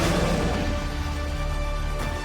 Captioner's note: roars